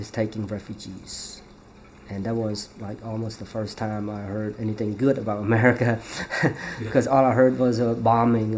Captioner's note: laughs